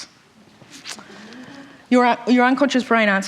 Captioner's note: audience Reactions